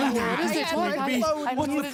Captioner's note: chatting